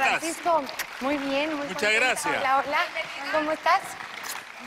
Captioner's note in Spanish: aplausos